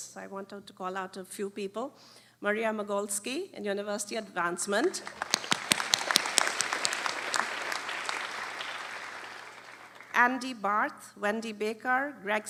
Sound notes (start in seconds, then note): 4.9 applause